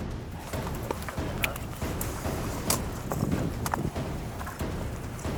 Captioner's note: snapping of fingers